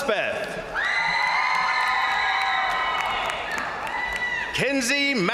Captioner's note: crowd cheering; crowd applauding